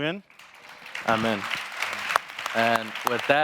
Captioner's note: audience applauding